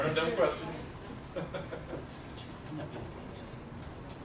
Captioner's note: laugh